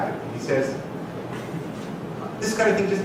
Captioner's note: laughing